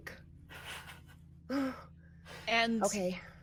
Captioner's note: person chuckling